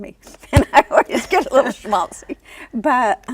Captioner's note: laughs